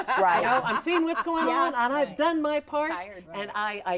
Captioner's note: hosts laughing